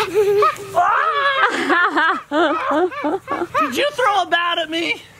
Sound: overlapping laughing; yelps

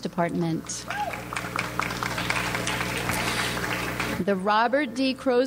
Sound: audience applauds

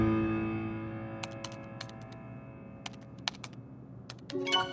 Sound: typing

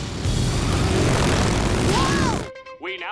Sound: screaming

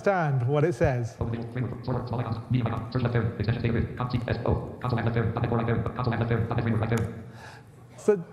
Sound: Jaws speaks contents of New Project window at incomprehensible speed

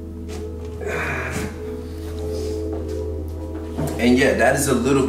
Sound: exhaling deeply

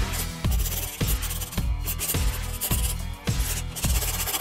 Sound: pen scribbling

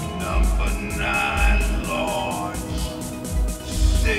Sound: echo

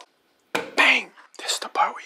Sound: thumps

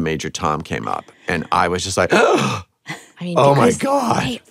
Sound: gasps

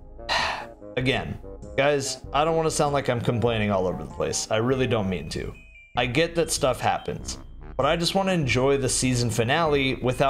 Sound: sigh

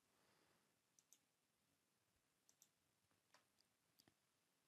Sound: mouse clicking

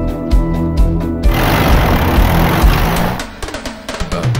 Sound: jeep engine revving

